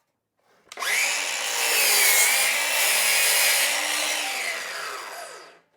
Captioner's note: saw Noise